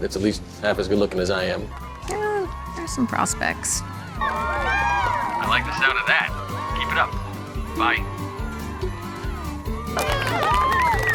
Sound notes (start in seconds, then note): 4.3 cheering; 10.3 cheering, applause